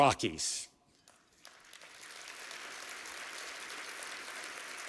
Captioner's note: applause